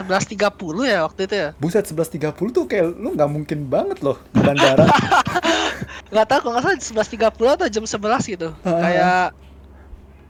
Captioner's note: laugh